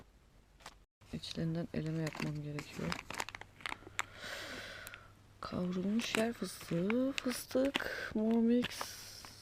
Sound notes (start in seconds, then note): 3.8 he breathes